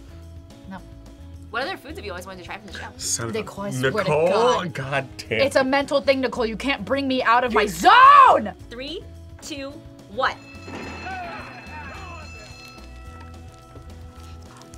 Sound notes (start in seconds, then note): 10.2 bell rings